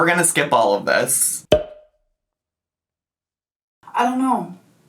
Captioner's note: slide pops